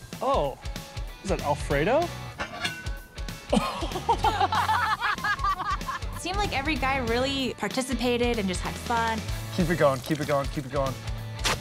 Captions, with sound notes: - Oh. Is that alfredo? - Oh. [laughter] - It seemed like every guy really participated and just had fun. - Keep it going. Keep it going. Keep it going.